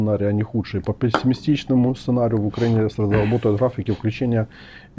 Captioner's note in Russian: откашливается